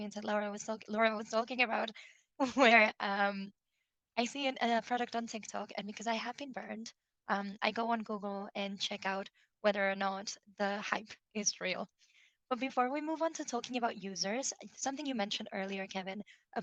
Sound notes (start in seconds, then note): 2.4 chuckles